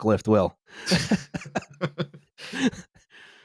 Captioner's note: laughter